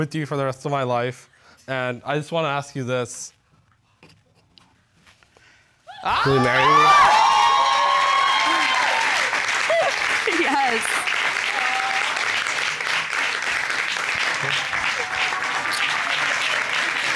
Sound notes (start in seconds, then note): 7.1 audience cheering; 9.6 chuckles; 10.7 audience applauding